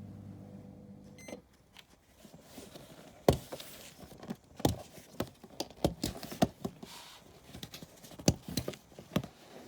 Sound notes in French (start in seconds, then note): 1.2 bip bip